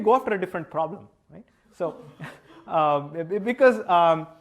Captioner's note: laughter